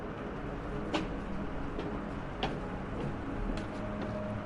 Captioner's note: footsteps echoing